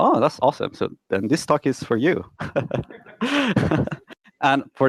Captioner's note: laughs loudly